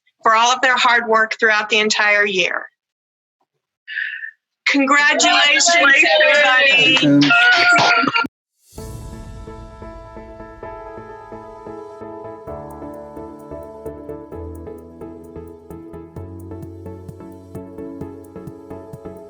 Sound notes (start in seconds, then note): 6.8 clapping